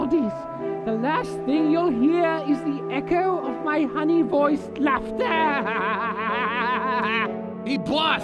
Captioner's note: laughs giddily